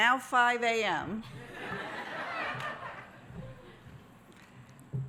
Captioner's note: audience laughs